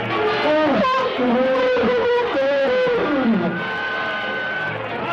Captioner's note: elephants trumpeting